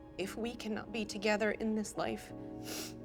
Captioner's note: sniffles